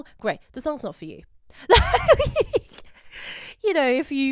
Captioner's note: laughs